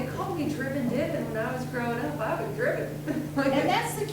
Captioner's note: laughs